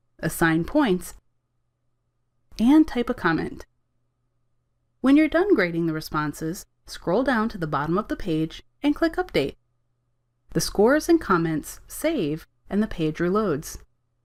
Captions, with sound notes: assign points... [silence] and type a comment. [silence] When you’re done grading the responses, scroll down to the bottom of the page, and click Update. The scores and comments save and the page reloads.